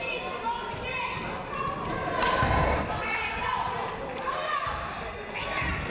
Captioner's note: people shouting in the crowd